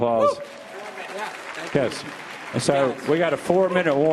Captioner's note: audience applauding